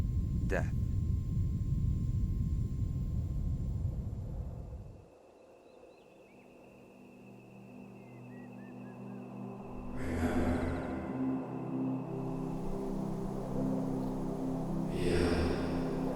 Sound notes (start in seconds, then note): 5.9 birds chirping; 6.2 mellow music